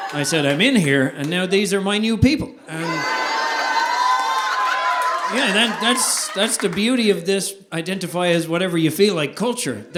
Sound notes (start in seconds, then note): 3.4 audience laughing